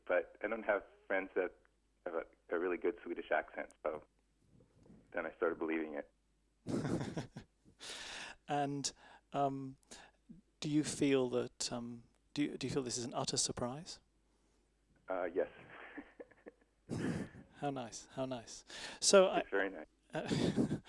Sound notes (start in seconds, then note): 6.6 laughs; 15.5 both laugh